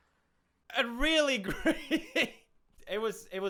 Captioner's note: laughter